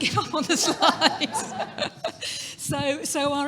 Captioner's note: laughing